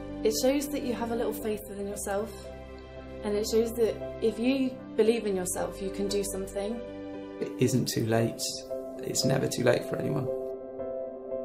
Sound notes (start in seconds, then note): 7.4 voiceover; 11.0 piano music